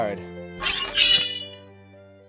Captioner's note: unsheathes sword